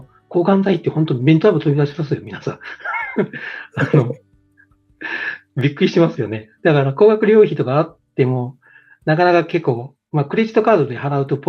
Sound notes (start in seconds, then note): 5.8 laughs